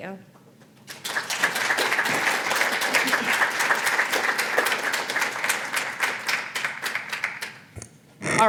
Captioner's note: applause